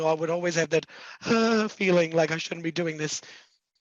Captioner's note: shudders